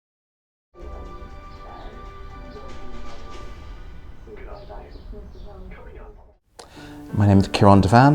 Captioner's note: sound of television in background